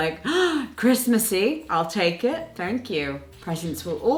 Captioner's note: gasping